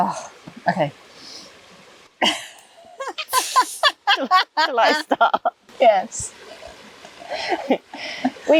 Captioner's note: giggles